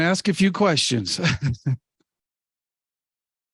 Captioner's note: laughs